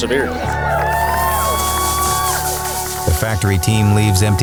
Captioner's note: crowd whoops; champagne sprays